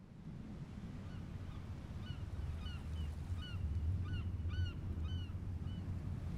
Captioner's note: seagulls squawking, waves lapping